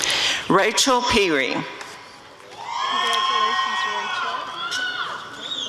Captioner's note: audience cheering